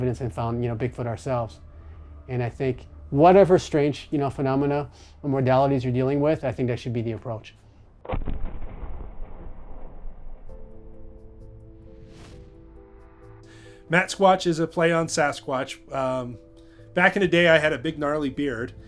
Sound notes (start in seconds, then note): 8.1 thunderous booming